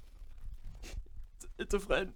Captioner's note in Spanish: sniff